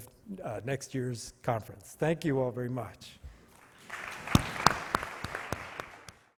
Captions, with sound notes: of next year's conference. Thank you all very much. (audience clapping)